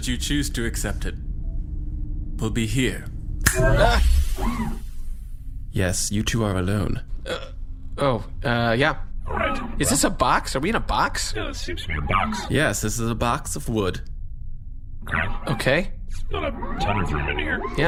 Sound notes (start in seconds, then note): 3.1 snaps fingers, Pleck makes a bewildered noise and C-53 whirrs